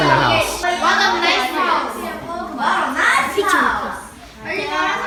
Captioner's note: children yelling